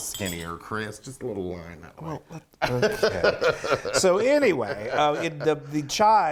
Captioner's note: laugh